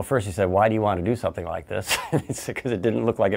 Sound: laughs

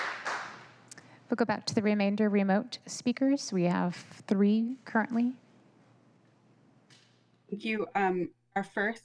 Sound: applause

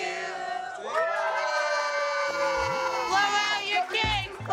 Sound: crowd cheers

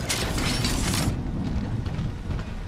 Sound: none

